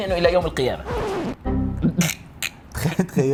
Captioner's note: shock